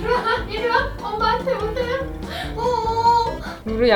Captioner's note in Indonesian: tertawa